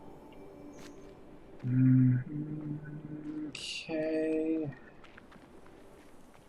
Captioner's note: humming